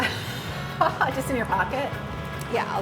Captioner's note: laughs